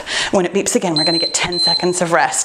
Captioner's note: timer beeping